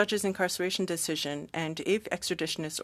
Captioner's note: speaking french